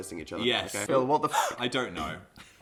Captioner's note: gasp